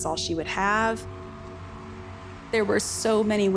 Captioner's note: audience cheering